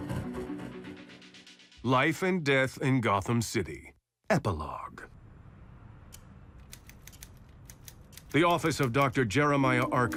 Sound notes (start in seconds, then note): 5.3 typewriter clacking